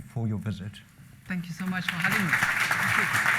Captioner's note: applause